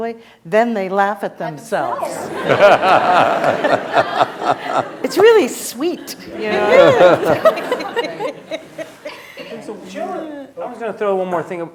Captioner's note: laughter